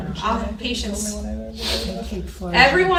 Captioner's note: people chatting